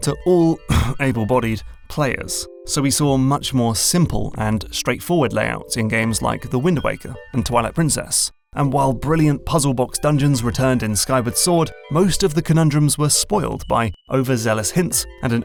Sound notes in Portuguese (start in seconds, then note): 0.6 cof cof